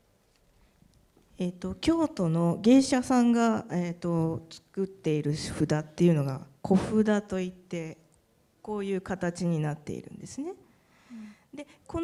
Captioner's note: speaking japanese